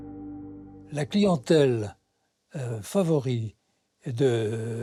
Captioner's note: French spoken audio